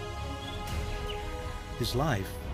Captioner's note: birds chirping